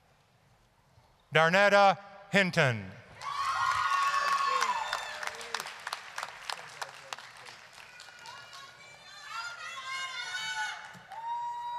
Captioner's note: applause, cheering